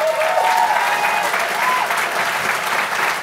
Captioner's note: clapping, cheers